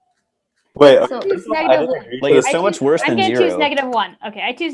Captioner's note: hubbub